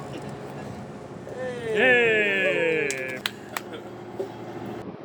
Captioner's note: audience clapping